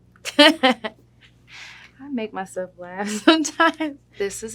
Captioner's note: laughs